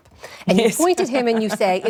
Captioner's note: laughter